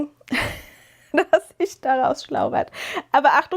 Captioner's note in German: gelächter